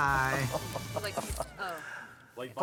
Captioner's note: chuckles